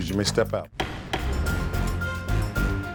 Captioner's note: dramatic music; gavel bangs twice